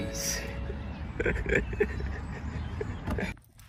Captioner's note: laughing